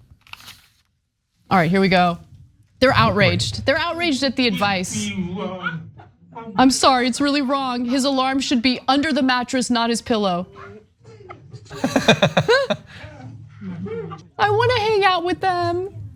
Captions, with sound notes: All right, here we go, they're outraged. They're outraged at the advice. I'm sorry, it's really wrong. His alarm should be under the mattress, not his pillow. >> [LAUGH]. >> I want to hang out with them.